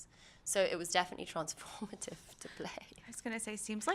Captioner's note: laughs